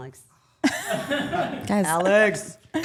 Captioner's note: group laughing